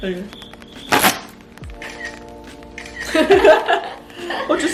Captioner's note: camera shuttering